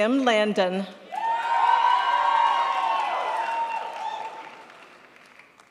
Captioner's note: crowd applauds